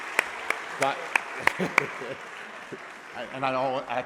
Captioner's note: laughing